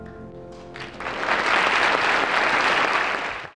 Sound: audience clapping

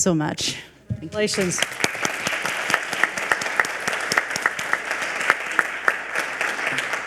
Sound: audience applauds

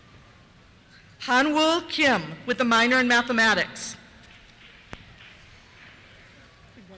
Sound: applause

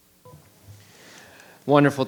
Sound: microphone beeping

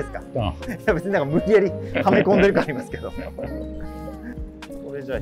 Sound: laughing

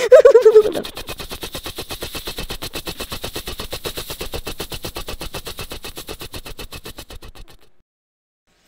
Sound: rotors spinning

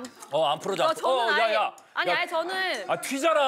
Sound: dripping

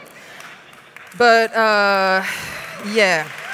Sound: applause

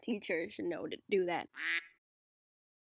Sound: quack

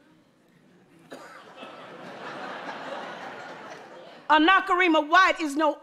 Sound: audience laughs

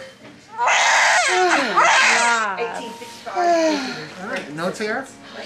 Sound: baby crying

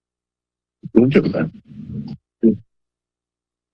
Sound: background chatter; silence

